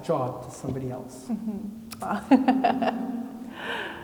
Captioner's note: laughs